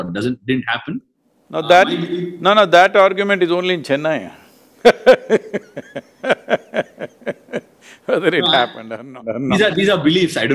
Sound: laughs

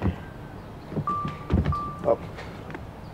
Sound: phone rings

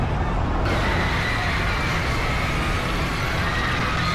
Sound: screaming

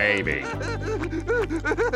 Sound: sobbing

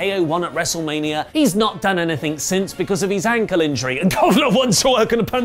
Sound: cough

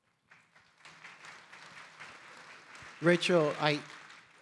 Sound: audience applauding

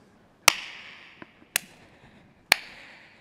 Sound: clapping

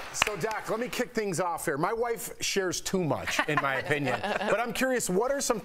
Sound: applause

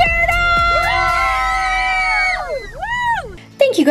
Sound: family screaming

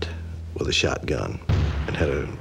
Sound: gunshot

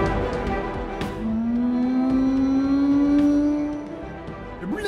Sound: whale noises

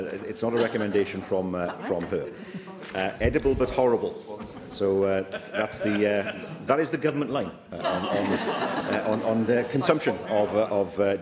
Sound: laughter

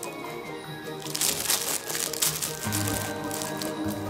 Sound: toy crackling

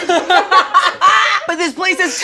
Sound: cackles

